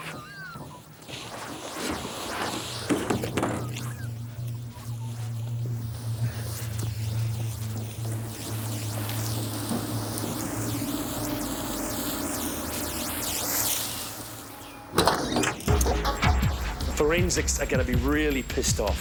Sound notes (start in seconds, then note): 3.1 body thumping